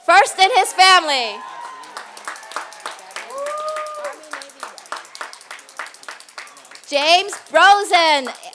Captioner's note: applause